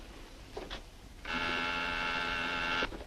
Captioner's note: telephone